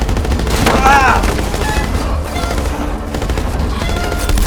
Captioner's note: grunting